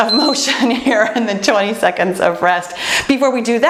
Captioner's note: timer beeps